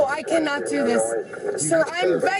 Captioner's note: radio chatter